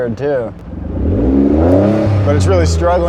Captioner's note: engine revving